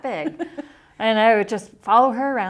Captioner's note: chuckles